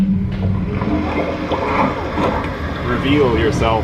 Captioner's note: water burbling